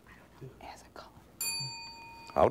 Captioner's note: bell rings